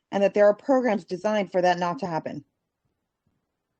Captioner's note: speaking Spanish